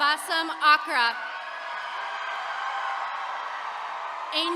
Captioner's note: attendees cheering